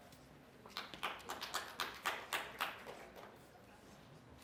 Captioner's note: applause